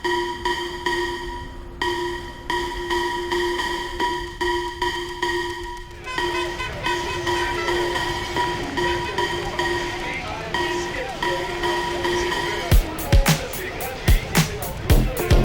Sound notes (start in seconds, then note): 0.0 birds chirping; 0.3 bell ringing; 6.2 indistinct chattering; 12.7 upbeat music